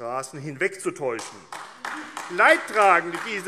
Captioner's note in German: Beifall AfD